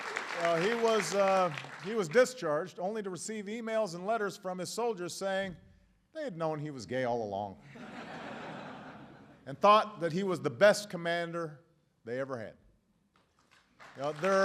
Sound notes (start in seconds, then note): 7.6 laughter; 13.2 applause